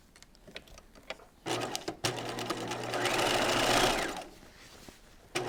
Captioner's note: sewing machine whirs